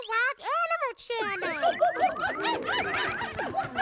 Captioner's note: hooting